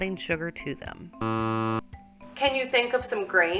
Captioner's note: buzzer sounds